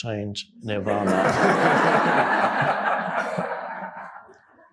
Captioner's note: audience laughing